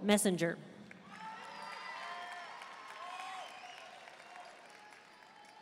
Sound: audience cheering and applauding

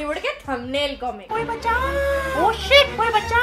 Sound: mimics

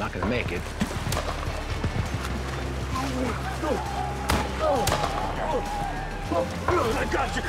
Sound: splashing

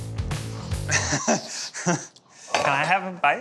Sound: chuckling

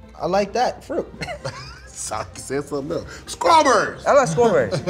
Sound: laughs

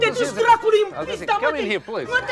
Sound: Borat speaks in foreign language; speaks in foreign language; Borat and Oksana speaking in foreign language

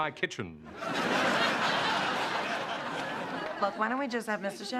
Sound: laughter

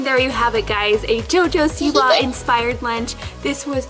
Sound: lunch box giggles

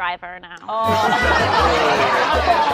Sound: laughter

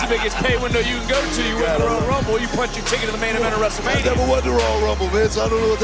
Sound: laughter

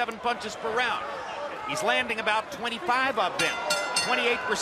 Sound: bell rings

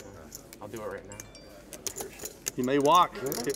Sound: chatter

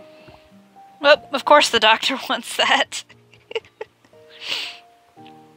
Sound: laughs

